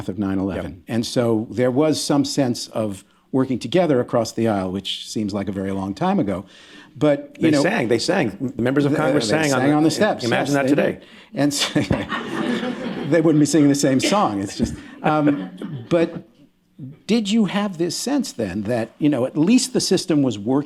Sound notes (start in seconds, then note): 11.6 laughter